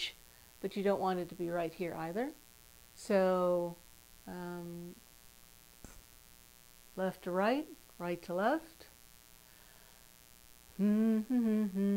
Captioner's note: hum